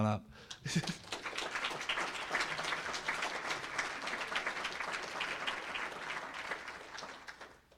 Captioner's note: applause